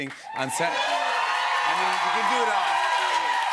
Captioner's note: cheers and applause